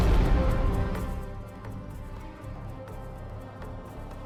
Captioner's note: explosions